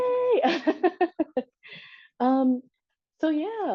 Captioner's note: chuckles